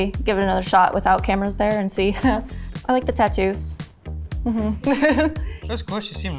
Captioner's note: laughs